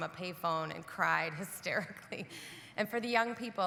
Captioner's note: chuckles